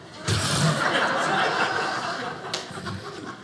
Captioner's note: audience laughing